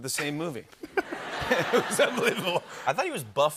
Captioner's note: laughter